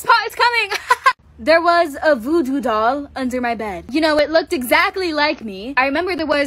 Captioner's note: laughs